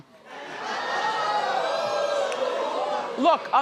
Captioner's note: audience exclaims